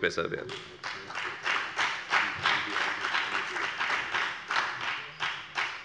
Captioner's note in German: Beifall bei der FDP